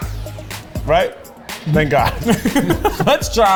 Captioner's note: laughs